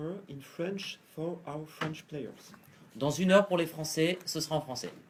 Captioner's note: then repeats it in French